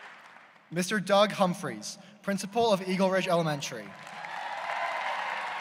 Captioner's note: applause